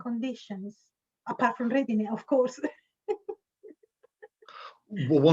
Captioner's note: laughs